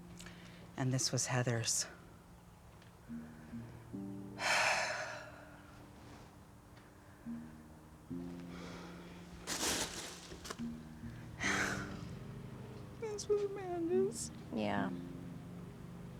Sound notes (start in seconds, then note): 4.4 sighing; 11.4 crying